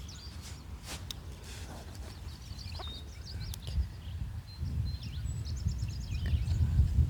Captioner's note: birds chirping